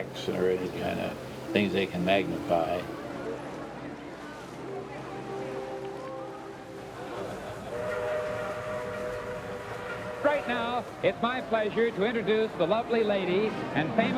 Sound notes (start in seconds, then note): 7.7 riverboat whistle blowing